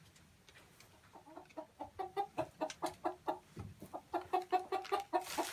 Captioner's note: chickens clucking